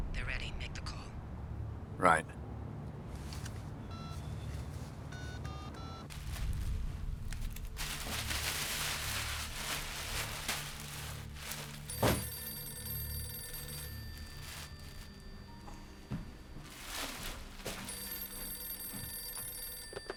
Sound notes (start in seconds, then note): 5.1 phone beeping; 8.1 bag rustling; 11.8 phone rings